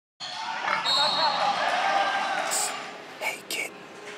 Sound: group cheering; whistle blowing

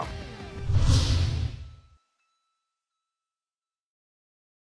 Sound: logo whooshing

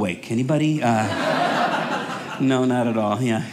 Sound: audience laughing

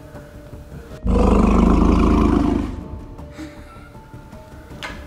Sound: dinosaur roar

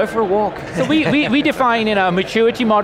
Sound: laughing

